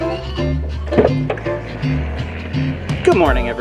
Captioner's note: door opens